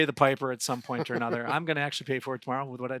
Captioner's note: laughing